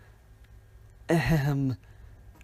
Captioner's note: ahem